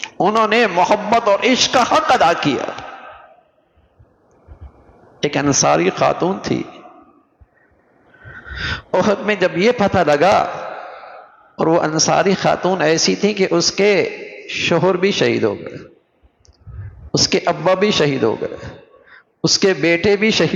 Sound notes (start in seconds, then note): 10.8 sighing; 11.4 gasping